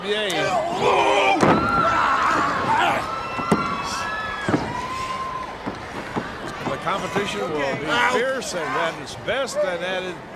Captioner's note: crowd cheering